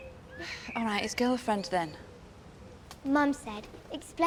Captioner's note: sighing